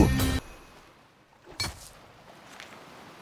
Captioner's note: silence